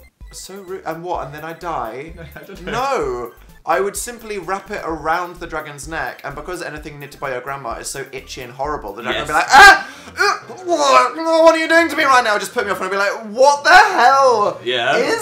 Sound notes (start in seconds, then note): 2.0 laughs; 9.1 gags